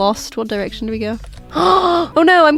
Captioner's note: gasps